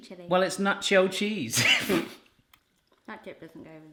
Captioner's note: laughs